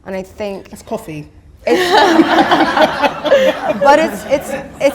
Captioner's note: audience laughter